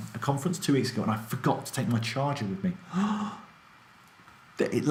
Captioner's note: gasps